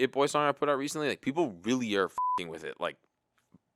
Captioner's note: beep